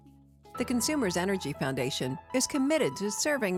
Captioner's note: voiceover